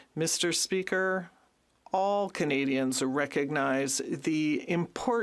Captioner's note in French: voix de l'interprète